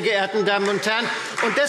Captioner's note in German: Beifall Freie Demokraten